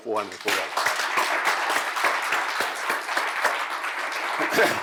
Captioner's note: applause